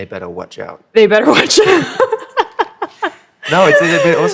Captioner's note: laughter